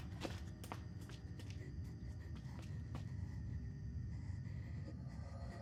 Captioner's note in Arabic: تنفس بصعوبة